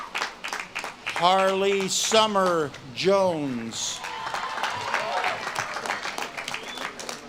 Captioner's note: audience claps and cheers